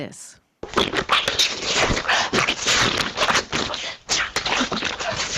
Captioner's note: computer screeching